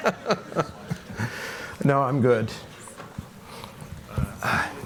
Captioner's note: laughs